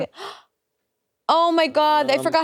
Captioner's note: gasps